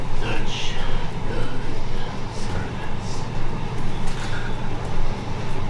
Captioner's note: gutteral speaking